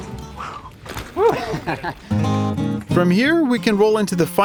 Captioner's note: laughs